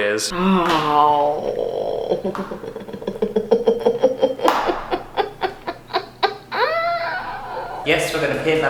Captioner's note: Trisha Paytas Satisfied Noises